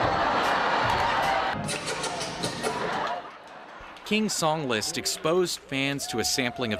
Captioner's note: laughter & making kissing sounds